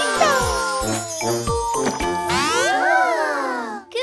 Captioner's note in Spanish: Sonido de bocina